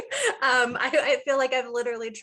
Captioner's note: laughing